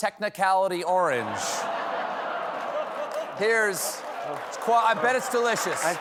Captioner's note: laughter